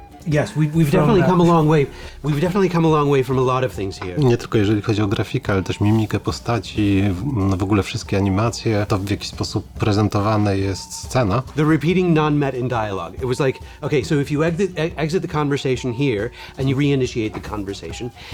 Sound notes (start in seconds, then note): 4.2 in Polish; 11.6 in English